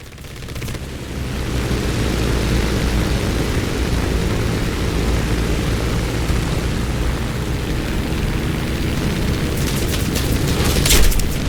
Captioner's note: aircraft Engines ,Gunfire, Flying Sounds